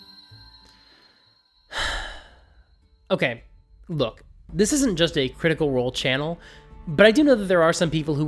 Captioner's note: sigh